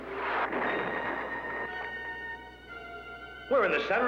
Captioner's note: explosion